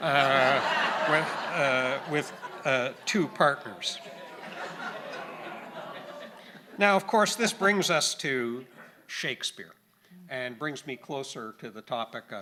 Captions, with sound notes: (audience laughing) with two partners. (audience groaning and laughing) Now of course, this brings us to Shakespeare, and brings me closer to the topic